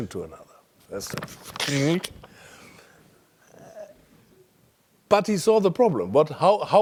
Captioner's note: laugh